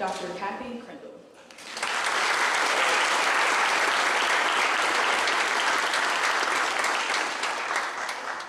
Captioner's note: clapping